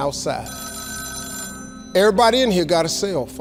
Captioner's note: phone rings